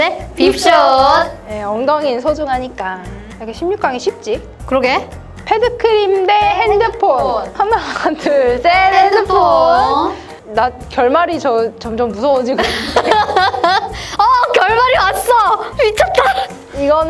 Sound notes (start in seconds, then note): 12.6 laughter